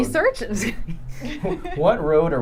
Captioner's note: laughing